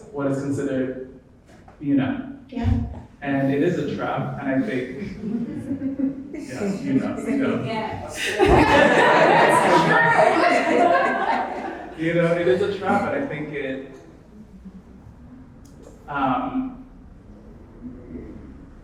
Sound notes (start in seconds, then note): 8.5 audience laughing